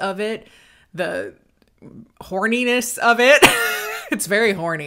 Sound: laughs

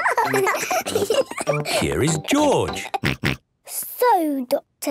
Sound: laughs; snort

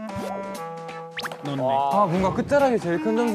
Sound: plop

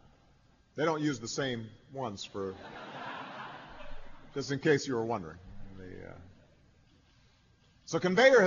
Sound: laughter

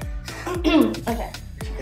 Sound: laughs; clears throat

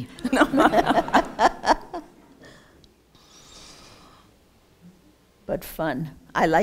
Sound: laughter

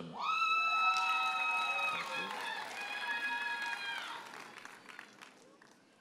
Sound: audience hollers and applauds

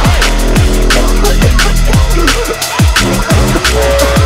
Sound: he coughs

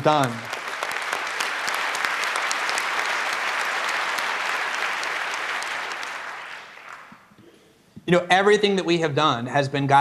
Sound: applause

